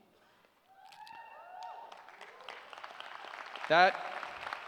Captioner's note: cheers